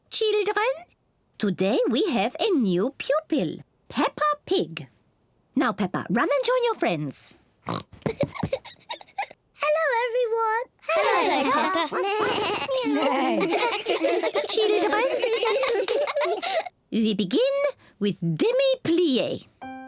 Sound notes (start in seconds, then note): 7.7 oinks and giggles; 11.4 all making animal sounds